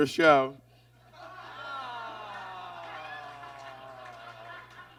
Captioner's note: audience groans